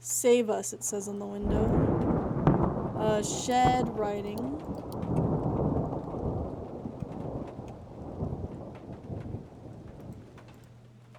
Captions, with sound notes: "Save Us," it says on the window. [Thunder] Uh, Shed. Writing. [Thunder Continues]